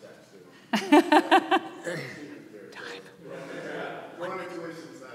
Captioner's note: laughing